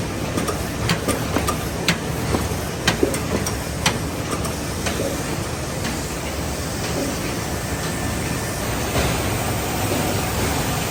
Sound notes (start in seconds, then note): 3.3 machine whirring and clunking